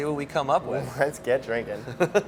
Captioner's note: all laugh